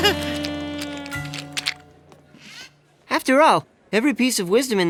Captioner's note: laughing